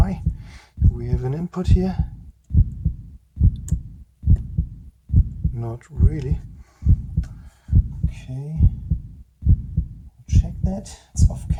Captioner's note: heartbeat